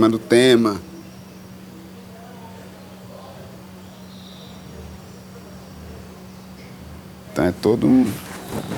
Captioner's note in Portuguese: pássaros chilreando